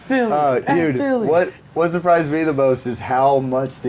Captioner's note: laughing